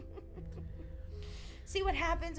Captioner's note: laughing